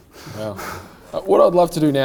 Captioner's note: laughing